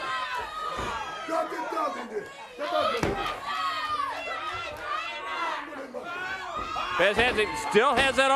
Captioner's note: crowd cheers